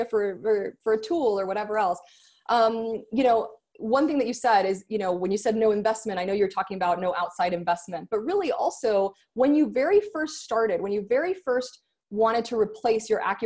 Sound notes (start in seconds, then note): none